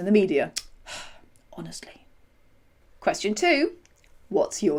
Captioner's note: sigh